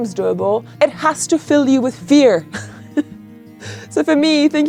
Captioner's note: laughs